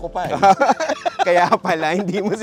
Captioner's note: laughs